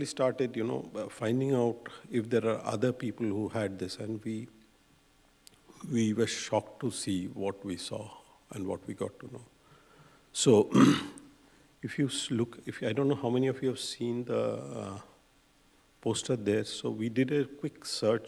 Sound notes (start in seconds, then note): 10.7 clears throat